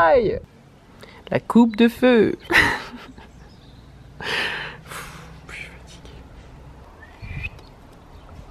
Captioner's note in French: rires